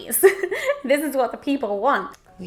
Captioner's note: laughs